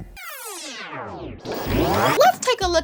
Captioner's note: tape rewinding